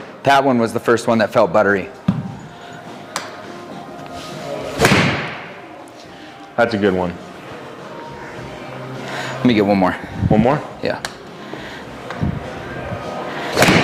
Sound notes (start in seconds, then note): 4.8 club thuds; 7.8 indistinct background music; 11.7 indistinct background music